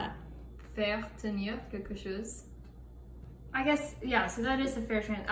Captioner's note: french